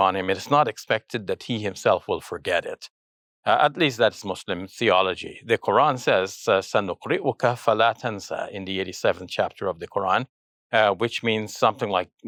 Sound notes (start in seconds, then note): 7.0 speaks in Arabic